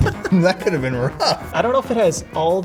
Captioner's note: laughing